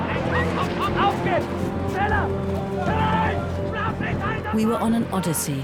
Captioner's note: yelling in German